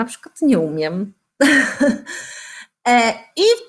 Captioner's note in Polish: śmiech